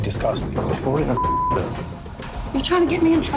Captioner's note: beep